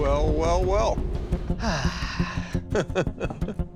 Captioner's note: sighs; laughs